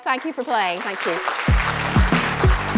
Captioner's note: applause